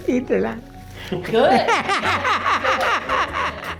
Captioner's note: laughs